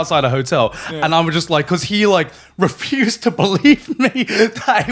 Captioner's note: laughing